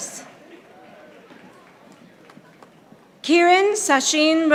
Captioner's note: audience applauding